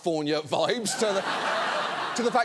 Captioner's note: studio audience laughing